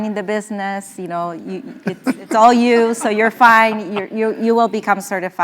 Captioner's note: laugh